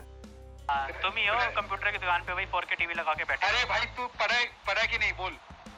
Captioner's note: gamers speaking foreign language